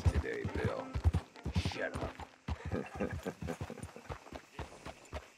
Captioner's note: Micah laughs in response